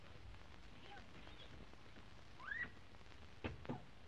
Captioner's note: glass squeaking